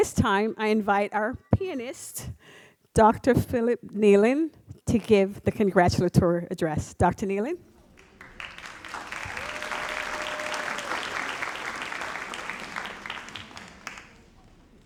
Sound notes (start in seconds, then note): 7.9 audience applauds